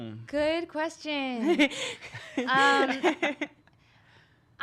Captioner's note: laughing